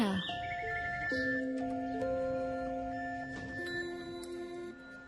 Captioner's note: machines beeping